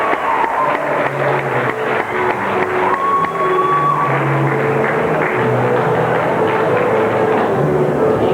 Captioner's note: applause